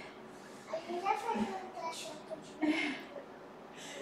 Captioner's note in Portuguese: risos